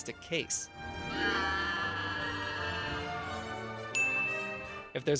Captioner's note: pteranodon screech